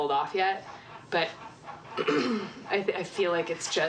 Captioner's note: limpa a garganta